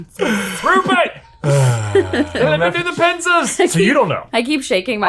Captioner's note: yelling in an accent